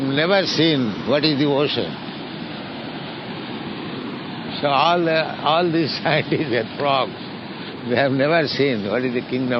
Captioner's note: laughs